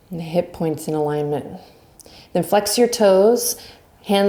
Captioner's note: none